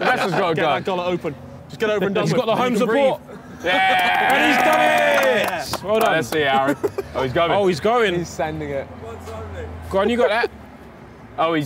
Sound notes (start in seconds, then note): 0.0 laughing; 3.6 cheering; 9.6 speaking from the background